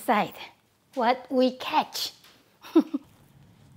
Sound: laughs

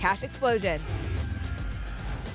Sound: whoosh

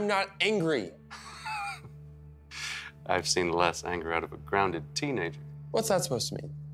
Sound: laughs

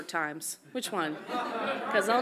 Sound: audience laughs

